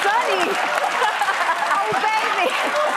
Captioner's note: laughing